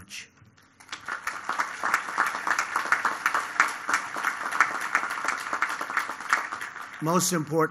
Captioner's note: applause